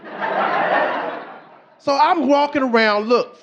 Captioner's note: audience laughing